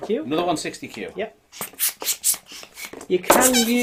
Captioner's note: pump inflating